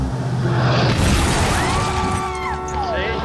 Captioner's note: screams